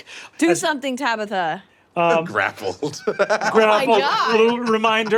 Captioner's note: laughs